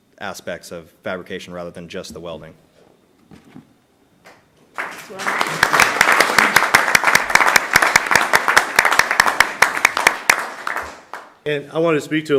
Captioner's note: applause